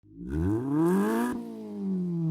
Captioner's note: engine revs